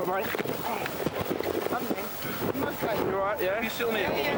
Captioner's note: water gurgling; crew rustling